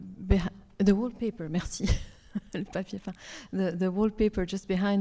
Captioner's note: speaks French